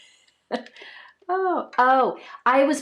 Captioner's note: laughs